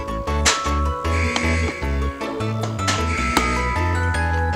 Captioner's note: basketball buzzer